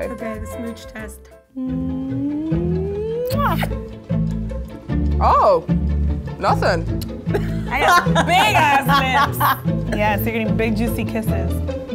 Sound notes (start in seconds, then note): 7.3 laughing